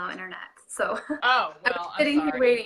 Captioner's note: laughing